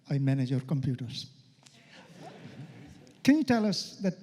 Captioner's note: laughter